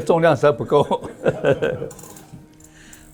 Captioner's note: laughs